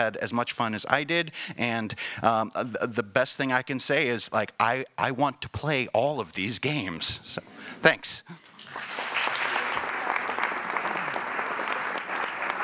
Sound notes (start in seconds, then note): 7.7 laughing; 8.6 applauding